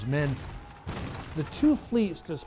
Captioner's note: cannon blasts